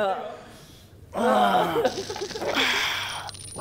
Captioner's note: groaning